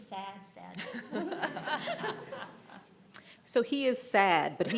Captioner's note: everyone laughing